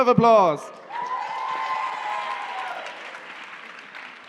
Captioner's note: cheering and applause